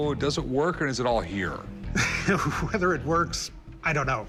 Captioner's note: laughs